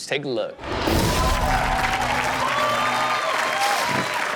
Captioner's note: audience cheers